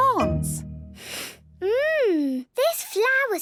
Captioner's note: sniffs